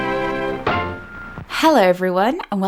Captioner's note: radio noises; upbeat music; radio noises